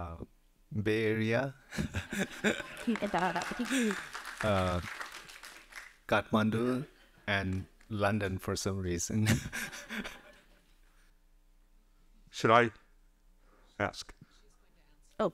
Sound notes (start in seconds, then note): 2.4 audience applauding lightly